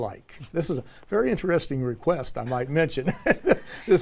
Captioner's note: laugh